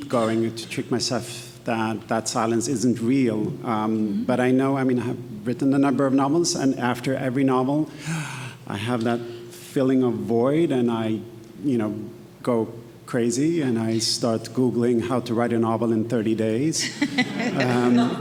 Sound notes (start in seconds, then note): 8.0 gasps; 16.8 attendees laughing